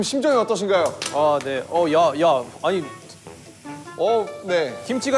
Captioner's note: tap tap